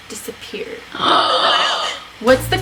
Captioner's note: gasps